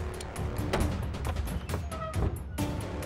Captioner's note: Door opens